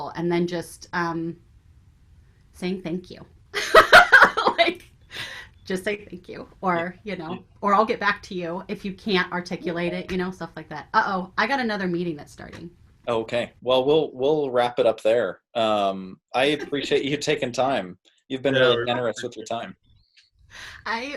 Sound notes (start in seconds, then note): 3.6 laughs